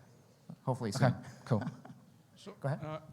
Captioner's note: laughs